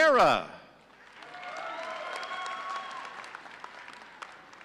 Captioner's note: audience cheering